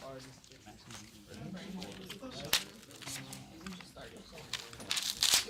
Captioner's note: students murmur